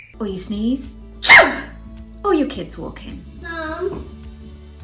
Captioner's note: sneezing